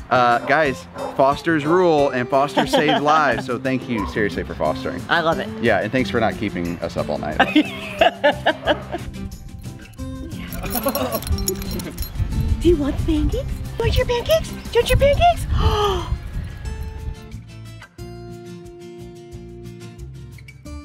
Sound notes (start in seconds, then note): 7.4 laughing